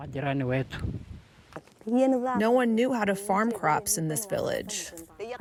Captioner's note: through translator